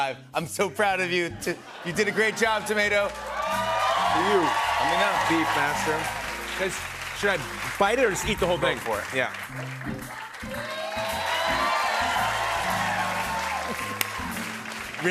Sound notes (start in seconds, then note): 10.6 cheers and applause